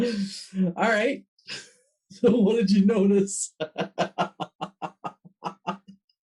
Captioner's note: laughs